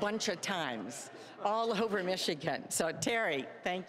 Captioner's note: all laughing